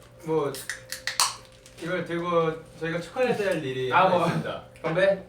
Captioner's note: drinks